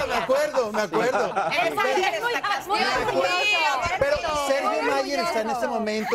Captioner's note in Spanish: risas